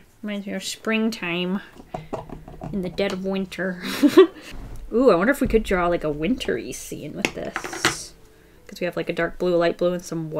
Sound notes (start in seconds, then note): 3.8 laughs